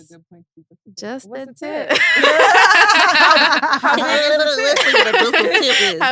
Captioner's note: laughs